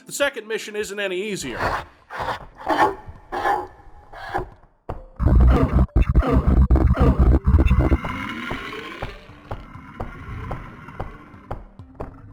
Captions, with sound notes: The second mission isn't any easier. *entering-a-level sound* *nightmarishly bit-crushed voice lines*